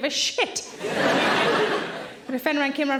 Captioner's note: audience laughing